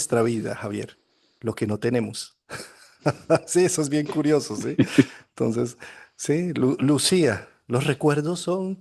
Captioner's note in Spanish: risas